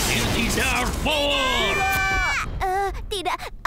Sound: screaming

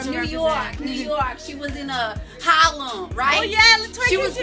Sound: new York accent

